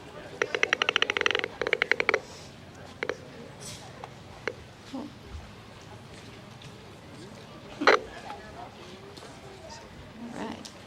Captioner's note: speaker continues to call bats over to her with a noise maker